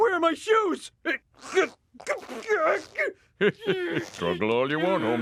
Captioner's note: Homer grunts; laughs